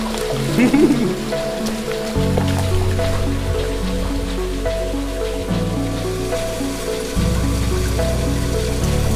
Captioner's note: laughter